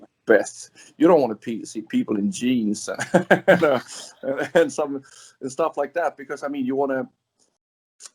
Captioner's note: laughs